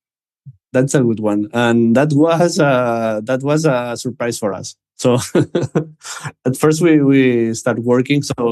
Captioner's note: laughs